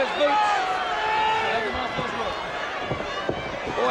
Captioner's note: crowd cheering